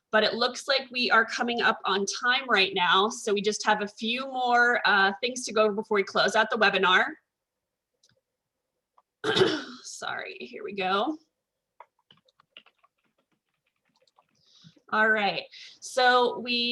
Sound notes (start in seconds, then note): 9.2 coughs; 11.8 types on keyboard